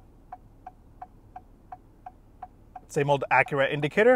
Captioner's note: indicator beeping